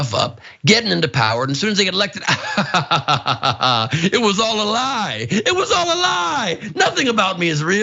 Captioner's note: laugh